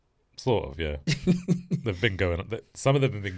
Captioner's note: laughs